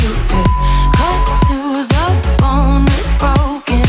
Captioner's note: timer beep